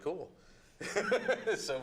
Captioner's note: chuckles